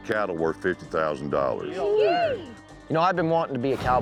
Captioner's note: all cheering